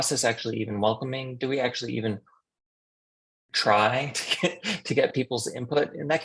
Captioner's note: chuckles